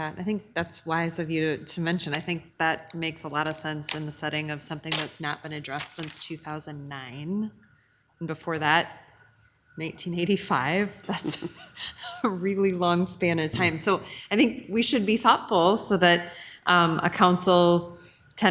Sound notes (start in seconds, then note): 11.1 laughs